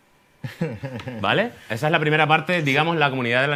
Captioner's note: laughs